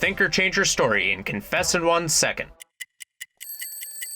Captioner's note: clock ticking; upbeat music